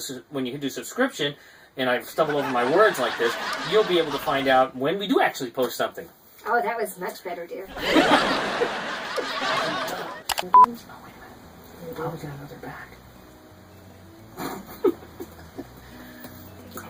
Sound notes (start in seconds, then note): 2.2 laughing; 7.7 laughing; 10.3 click and beep; 14.3 chuckling